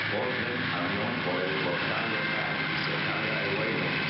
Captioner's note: man cha ttering on pa s ystem